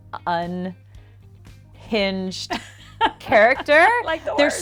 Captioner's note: laughs